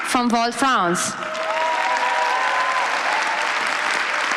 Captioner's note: applause